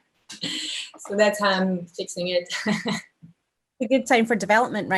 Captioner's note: chuckles